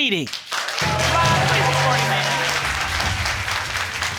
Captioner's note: audience clapping